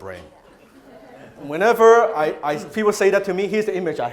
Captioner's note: crowd laughs